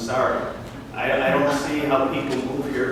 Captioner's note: laughter and guffaws in audience